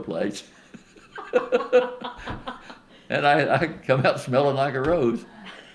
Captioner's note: laughter